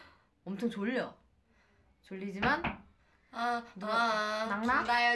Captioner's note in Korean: 똑똑